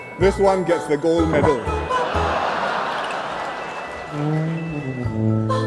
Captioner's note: laughter